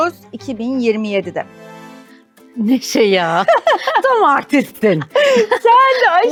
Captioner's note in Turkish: kahkaha